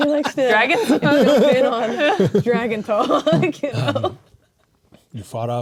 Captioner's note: players laughing